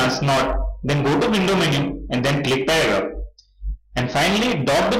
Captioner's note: click